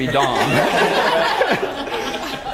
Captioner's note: laugh